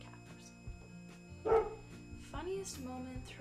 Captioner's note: dog bark sound effect